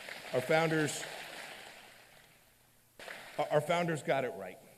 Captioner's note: applause